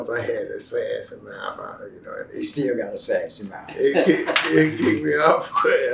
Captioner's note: laughs